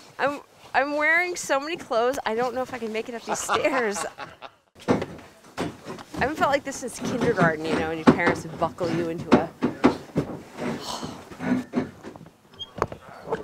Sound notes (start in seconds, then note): 3.2 laughs